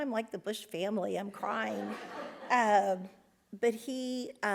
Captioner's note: audience laughs